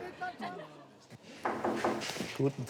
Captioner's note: door knocking